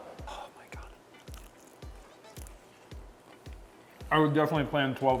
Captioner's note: chicken crunches